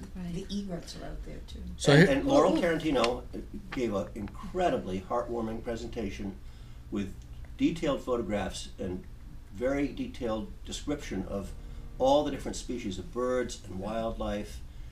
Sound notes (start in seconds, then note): 0.2 voiceover